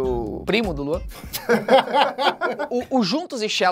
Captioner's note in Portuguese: risadas